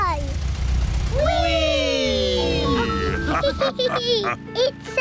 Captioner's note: all laugh